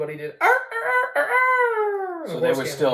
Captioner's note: rooster crow